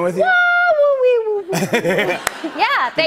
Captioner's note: laughter